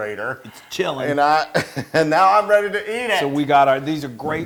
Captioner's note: laugh